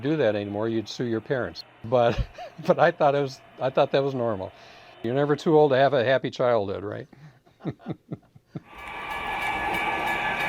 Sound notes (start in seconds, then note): 2.1 laughs; 7.5 laughs